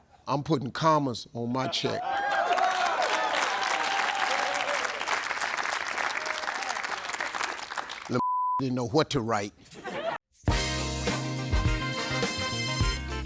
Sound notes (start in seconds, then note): 2.1 audience clapping; 8.2 beep; 10.4 upbeat music